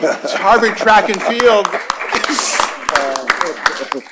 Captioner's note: applause